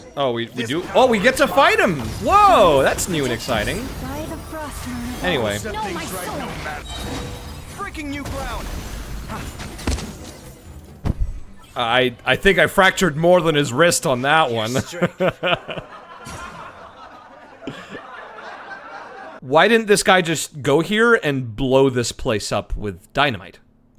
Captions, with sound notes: Oh, we do? Oh, we get to fight him! Whoa! That's new and exciting. Anyway. [Body thunks followed by puff of smoke] I think I fractured more than his wrist on that one. [Laugh track plays] Why didn't this guy just go here and blow this place up with dynamite?